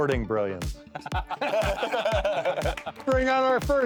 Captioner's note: laughing